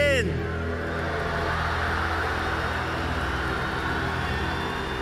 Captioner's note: cheers and applause